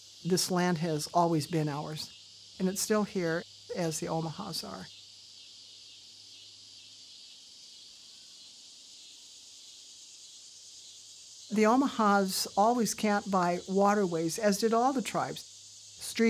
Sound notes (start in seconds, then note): 5.7 insects chirping